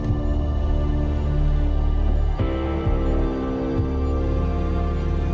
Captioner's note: beeping continues